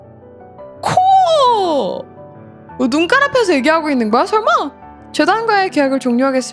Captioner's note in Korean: 비명